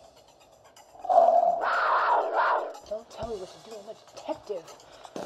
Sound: cougar Growl; lioness Growl

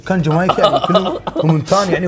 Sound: laughing

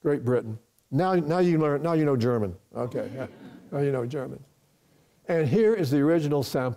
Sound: audience laughs

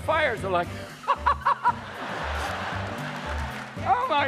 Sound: laughing

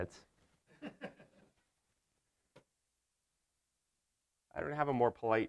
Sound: audience member laughs

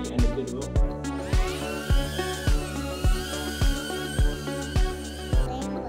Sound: drone buzzing

